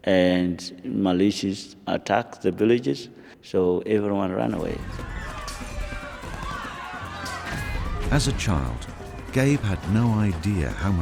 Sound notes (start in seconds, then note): 4.8 panicked screams; 8.4 voiceover